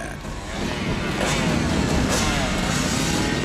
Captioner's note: engine revs